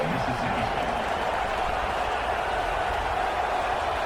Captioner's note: crowd Noises